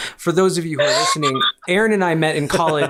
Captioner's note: chuckles